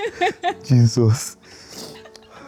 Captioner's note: laughs